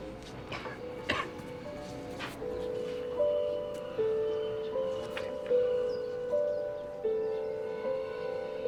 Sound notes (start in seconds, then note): 0.5 coughs